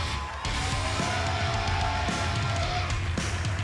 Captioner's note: cheers and applause